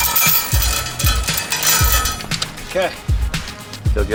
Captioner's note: chain clacking